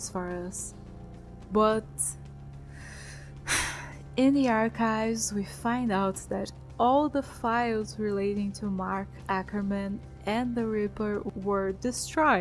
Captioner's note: sigh